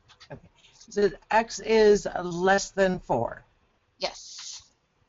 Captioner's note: voiceover